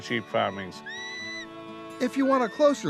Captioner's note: whistling